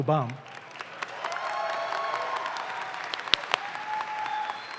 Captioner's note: audience claps